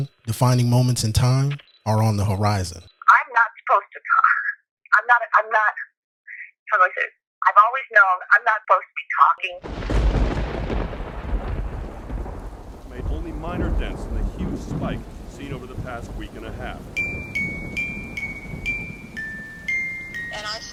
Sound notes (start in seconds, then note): 10.0 rain pattering; 10.0 thunderstorm crashing